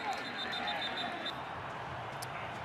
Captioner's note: whistle